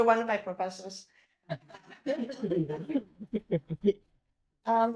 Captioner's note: group laughing